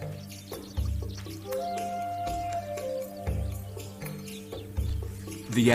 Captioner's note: elephant trumpeting